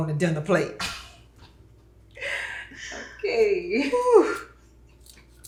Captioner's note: laughing